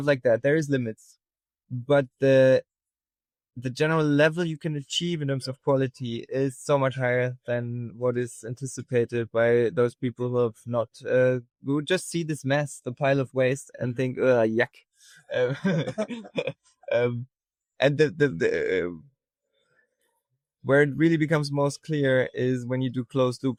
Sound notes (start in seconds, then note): 15.3 laughing